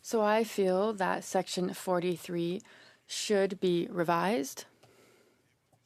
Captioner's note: speaking French